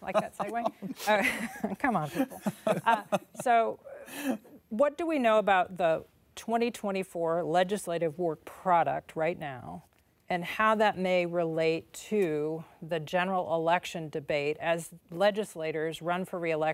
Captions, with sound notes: Do you like that segway? Come on, people. (laughter) What do we know about the 2024 legislative work product right now and how that may relate to the general election debate as